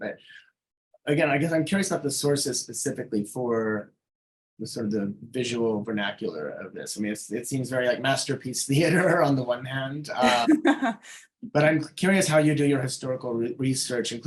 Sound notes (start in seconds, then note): 8.6 chuckling; 10.1 laughing